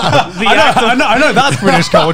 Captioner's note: all laugh